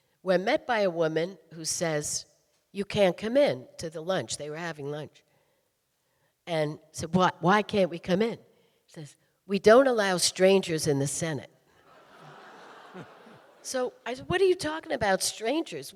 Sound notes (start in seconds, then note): 11.8 audience laughing